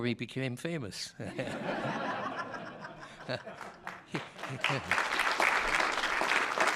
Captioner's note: laughter and applause